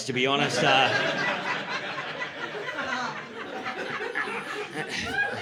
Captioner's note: laughter